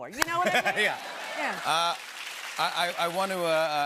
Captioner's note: applause